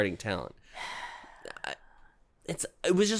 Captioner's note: sigh